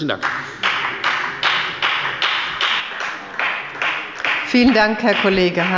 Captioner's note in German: Beifall bei der FDP